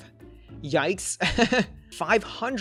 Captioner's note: laughs